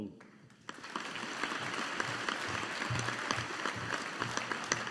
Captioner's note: audience applauding